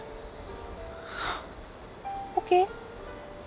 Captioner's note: Exhales